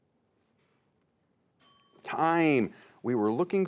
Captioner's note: bell dings